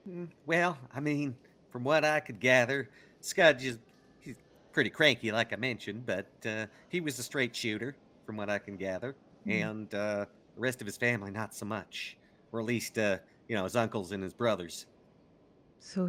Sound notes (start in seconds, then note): none